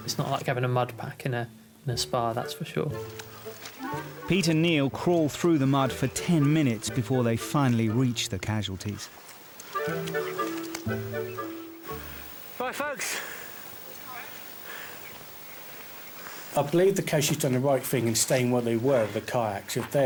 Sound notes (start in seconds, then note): 9.7 light whimsical music; 10.6 breathing heavily